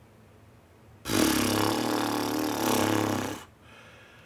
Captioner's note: exhausted lip roll